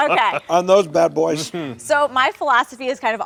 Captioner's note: male guest laughs heartily